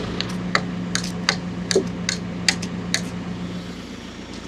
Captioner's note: tool banging; engine humming continues